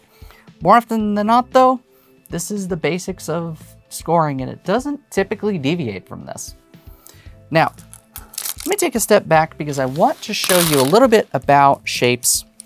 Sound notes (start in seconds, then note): 8.4 stones clattering; 10.3 stones clattering